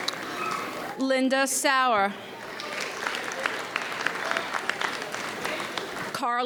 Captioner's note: audience applauds